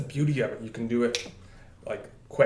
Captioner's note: snap